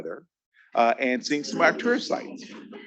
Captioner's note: attendees laughing